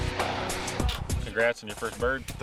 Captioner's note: gun firing